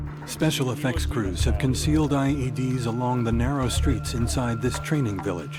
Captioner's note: voiceover